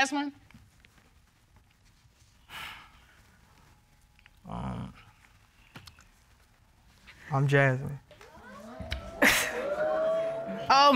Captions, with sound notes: Do you know Jasmine? [sighs] Um... -I'm Jasmine. -[audience exclaiming]